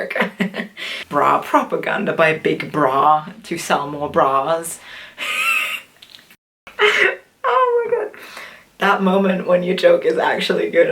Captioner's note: laughs